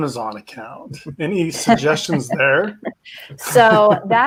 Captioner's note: laughing